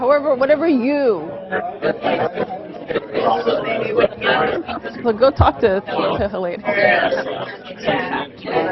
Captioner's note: audience chatter